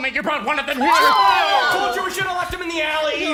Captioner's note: everyone screams